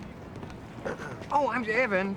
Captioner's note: clearing throat